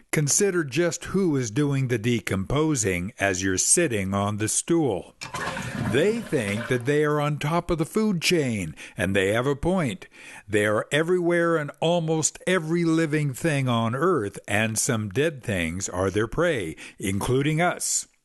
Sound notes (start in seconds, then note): 5.2 flush